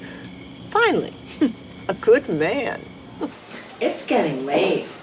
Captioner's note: laughs